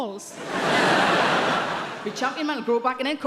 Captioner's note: audience laughing